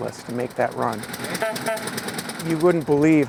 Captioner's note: horn honking